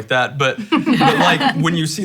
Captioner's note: laughing